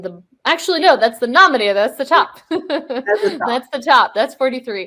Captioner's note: laughs